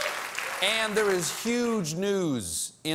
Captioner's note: applause